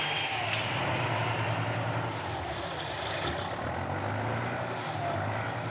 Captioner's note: engine rumbling